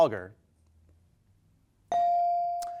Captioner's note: bell dinging